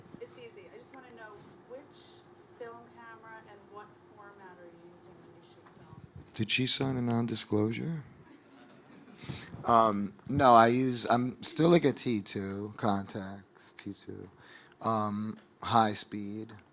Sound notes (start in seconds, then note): 8.3 audience laughing